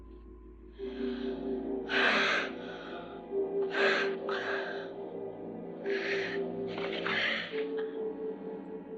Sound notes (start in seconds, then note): 0.6 tense music; 0.7 breathing heavily